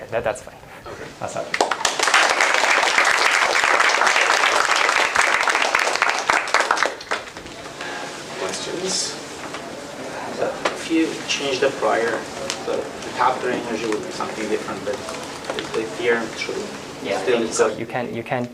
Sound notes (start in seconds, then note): 4.5 applause